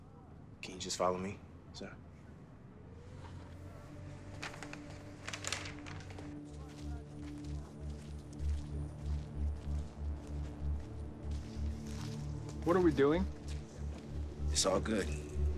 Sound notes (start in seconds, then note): none